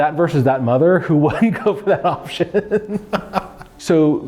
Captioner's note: laughs